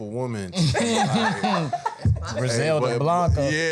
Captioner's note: panel laughing